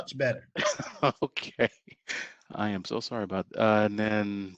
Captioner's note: laughter